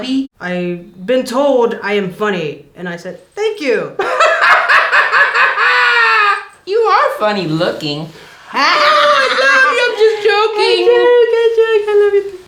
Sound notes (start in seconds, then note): 4.0 laughing; 8.8 laughter